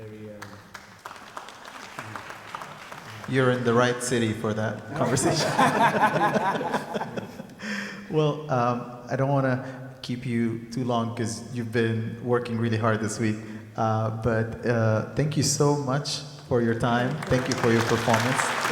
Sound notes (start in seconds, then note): 0.3 audience clapping; 4.8 people laughing